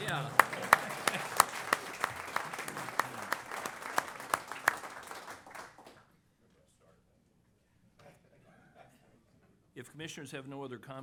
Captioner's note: applause